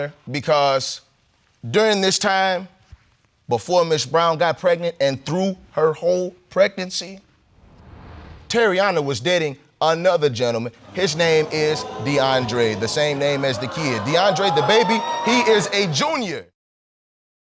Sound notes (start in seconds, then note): 10.8 audience exclaiming